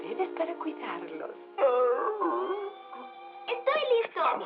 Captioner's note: growls